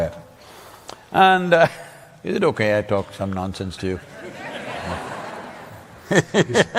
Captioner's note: laughs